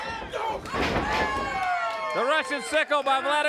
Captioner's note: mat shudders